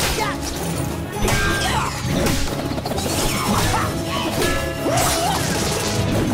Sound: grunting

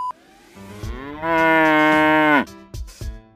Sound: the cow is mooing

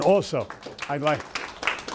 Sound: audience applauding

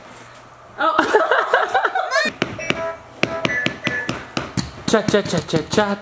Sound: laugh

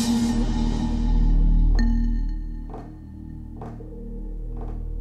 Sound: suspenseful music; fingernails tapping

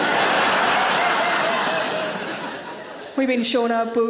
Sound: audience laughs

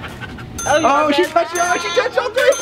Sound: ding

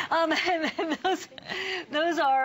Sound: laughter

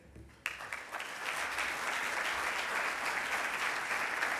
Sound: audience applauds

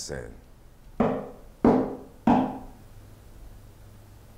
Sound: knock knock knock

